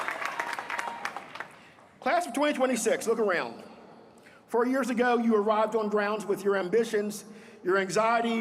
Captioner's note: applause